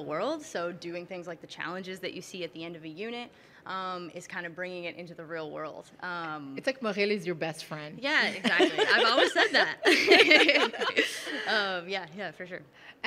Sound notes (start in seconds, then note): 8.4 laughing